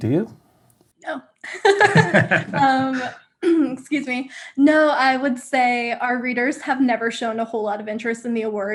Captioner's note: coughs